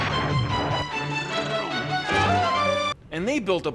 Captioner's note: imitating engine running